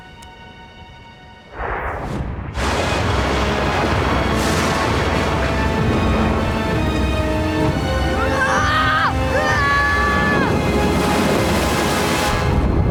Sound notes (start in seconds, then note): 8.1 screaming